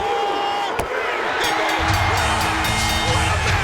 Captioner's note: bell ringing